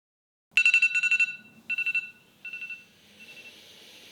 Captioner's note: alarm ringing